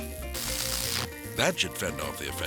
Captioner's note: electricity zapping